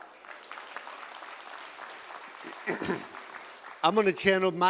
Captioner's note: applause